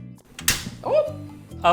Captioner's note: speaking in Hindi; gas burner turning on